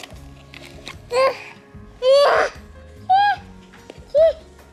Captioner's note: cooing